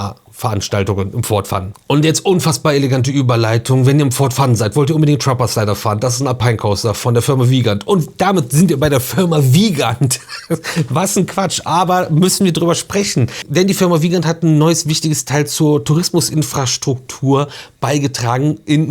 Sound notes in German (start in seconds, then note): 9.9 gelächter